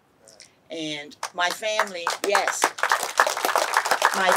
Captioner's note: clapping